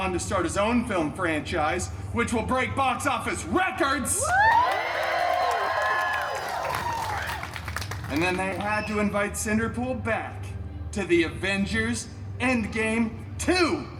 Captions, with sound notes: to start his own film franchise, which will break box office records! [guests cheering and applauding] And then they had to invite Cinderpool back to the Avengers Endgame II: